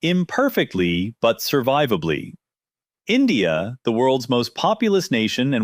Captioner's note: thoughtful